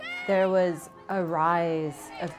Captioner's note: crowd